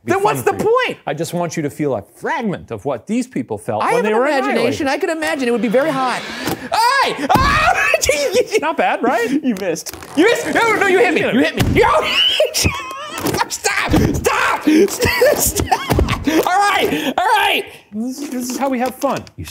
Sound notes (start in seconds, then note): 6.6 screams; 7.2 bucket booms; 11.5 bucket booms; 12.0 laughs